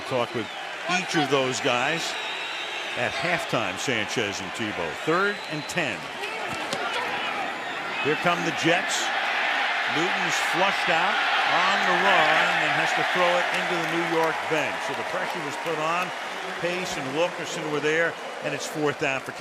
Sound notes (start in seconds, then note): 9.5 cheering